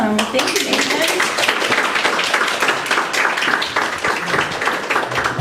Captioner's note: applause